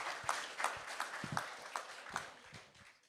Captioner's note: applause